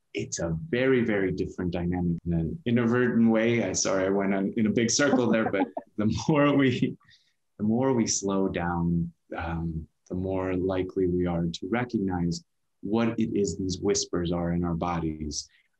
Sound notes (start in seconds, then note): 7.1 chuckles